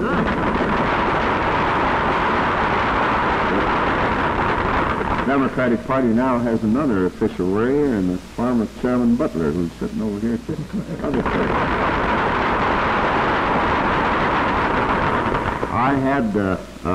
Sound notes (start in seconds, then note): 0.2 applause; 11.1 applause